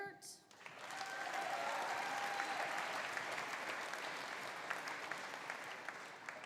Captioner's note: audience applauding; audience cheering